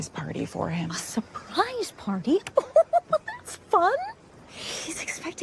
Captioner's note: laughs